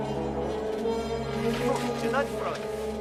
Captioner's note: something in a European language